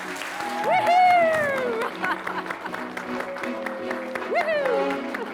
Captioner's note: guests applauding and cheering